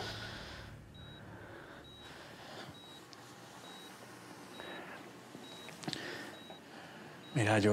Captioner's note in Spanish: sonido del monitor